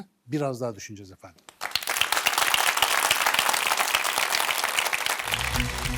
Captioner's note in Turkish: alkış